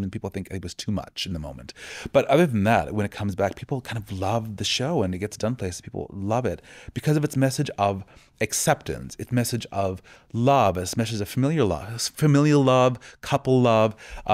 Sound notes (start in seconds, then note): none